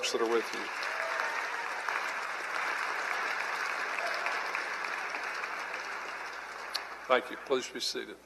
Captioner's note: cheering and Applause